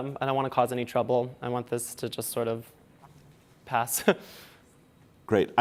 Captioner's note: chuckles